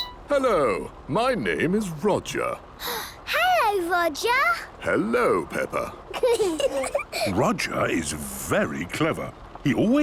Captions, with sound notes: - Hello. My name is Roger. - (gasps) Hello, Roger! - Hello, Peppa. - (children giggling) - Roger is very clever.